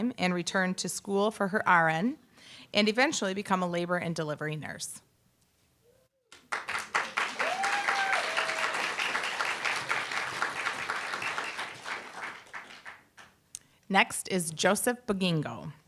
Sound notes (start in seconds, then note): 6.3 applause, cheer